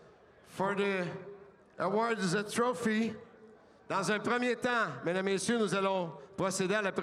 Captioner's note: speaking French